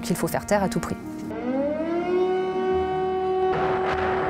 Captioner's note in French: une sirène retentit